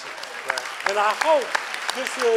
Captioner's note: clapping